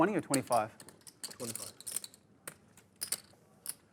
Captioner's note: voiceover